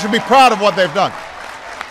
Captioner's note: applause